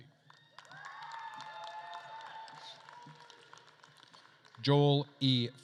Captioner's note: attendees cheering and applauding